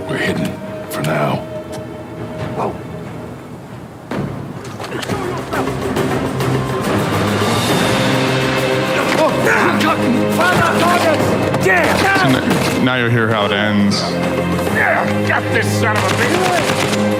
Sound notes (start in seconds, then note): 5.8 driving percussive music; 11.8 gunfire; 15.9 gunfire